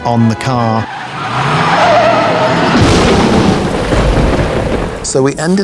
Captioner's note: tires skidding; dramatic music